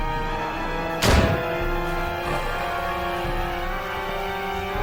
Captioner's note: gunshot booming